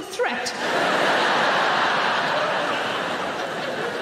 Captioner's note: audience laughing